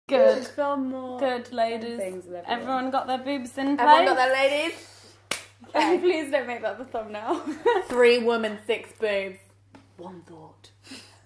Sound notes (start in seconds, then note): 7.1 laughing